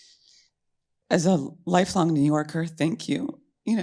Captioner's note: voice breaking